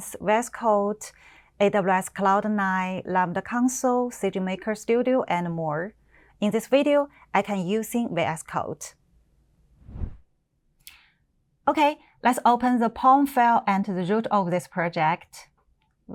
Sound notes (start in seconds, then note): 9.8 window whooshes